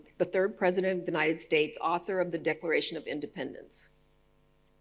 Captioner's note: none